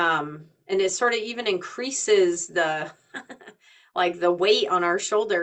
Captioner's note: chuckling